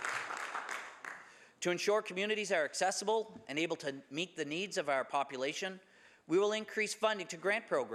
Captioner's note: some Applause